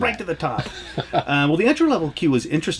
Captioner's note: laughs